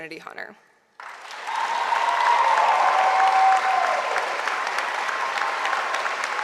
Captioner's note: audience applauding; audience cheering